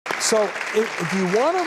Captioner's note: audience applause